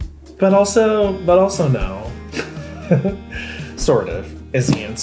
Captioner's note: chuckles